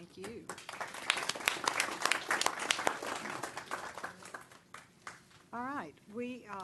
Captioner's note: clapping